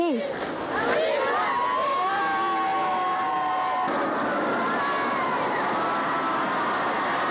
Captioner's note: crowd cheers